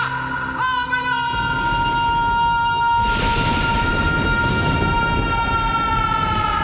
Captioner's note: thunder rumbling; crowd cheering; crowd applauding